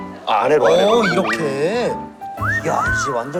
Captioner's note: fussing